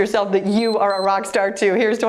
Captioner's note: timer beeps